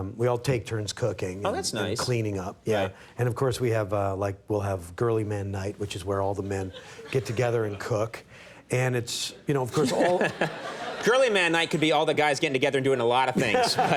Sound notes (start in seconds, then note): 9.4 Conan and audience chuckling